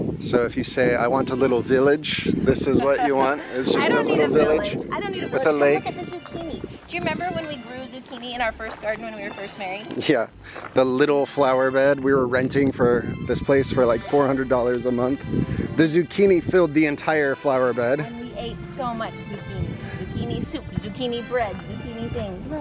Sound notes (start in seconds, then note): 2.7 laughs